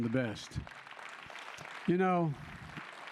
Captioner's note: applause